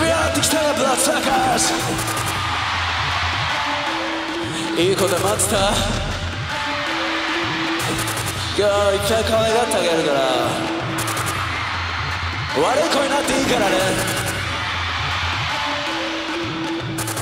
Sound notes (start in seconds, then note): 0.3 singer speaks in foreign language; 2.1 crowd cheering; 5.1 singer speaks in foreign language; 6.9 crowd cheering; 8.9 singer speaks in foreign language; 11.2 crowd cheering; 12.8 singer speaks in foreign language; 14.5 crowd cheering